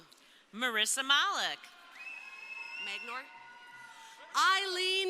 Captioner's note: crowd cheering